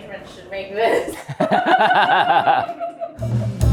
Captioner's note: laughing